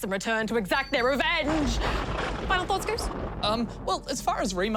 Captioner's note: lightning crashes